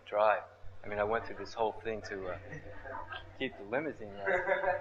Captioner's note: laughs